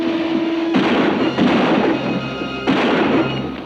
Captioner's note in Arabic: أصوات البنادق